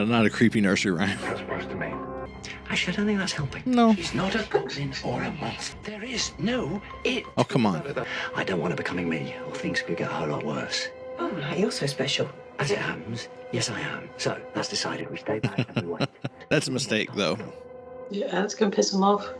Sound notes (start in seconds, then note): 0.9 laughs; 4.8 laughs; 7.5 exasperated; 15.4 laughing